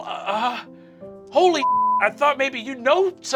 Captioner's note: beeping